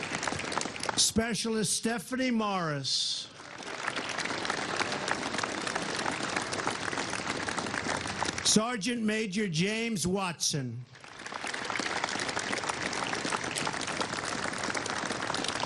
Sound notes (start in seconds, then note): 5.2 applause; 13.3 applause